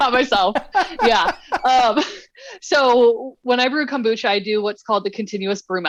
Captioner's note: laughter